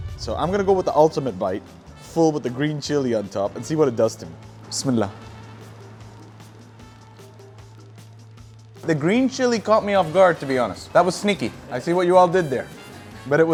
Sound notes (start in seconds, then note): 5.7 speaks Arabic